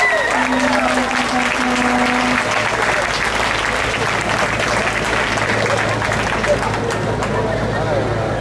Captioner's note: audience applauds